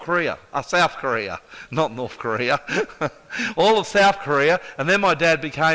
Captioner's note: chuckles